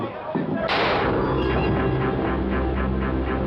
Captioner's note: gun fires